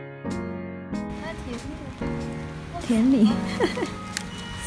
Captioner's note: laughing